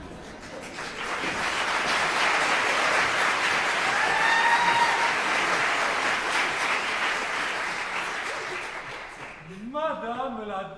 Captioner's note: applause